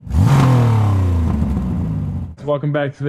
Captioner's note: car Revs